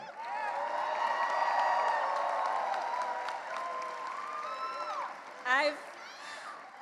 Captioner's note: cheering and applause